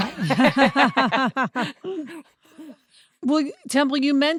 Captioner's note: laugh